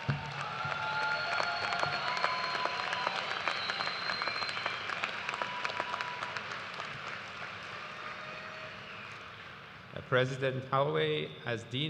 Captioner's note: cheers and applause